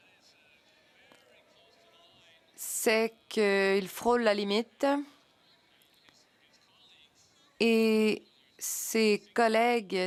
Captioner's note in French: voix de l'interprète